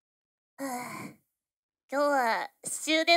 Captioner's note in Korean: 한숨